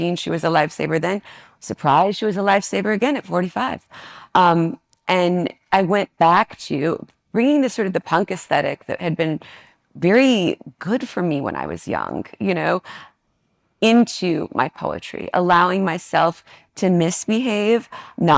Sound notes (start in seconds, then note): none